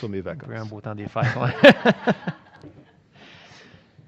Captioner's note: rires